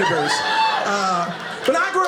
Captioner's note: audience laughing